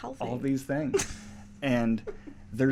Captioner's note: laughs